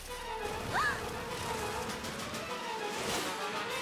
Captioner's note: gasps